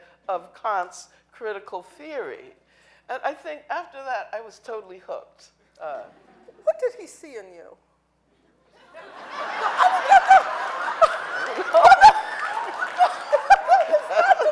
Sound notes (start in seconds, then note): 8.8 audience laughing